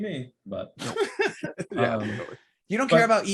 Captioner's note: laughing